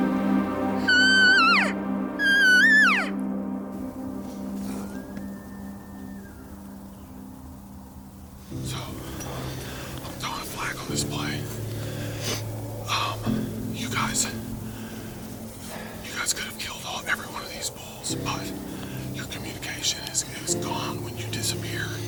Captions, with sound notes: (Cow calling) (Elk bugle in the distance) So... I’m calling a flag on this play. You guys, you guys could have killed all, every one of these bulls but, Your communication is gone when you disappear